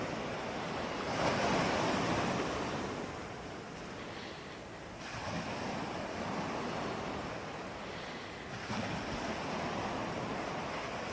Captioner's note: breathing